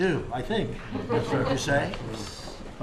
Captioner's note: laughter